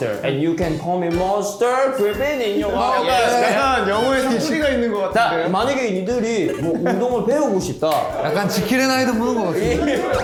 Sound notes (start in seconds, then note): 6.4 back to speaking in his native dialect